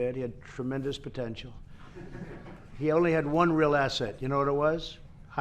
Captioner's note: laughter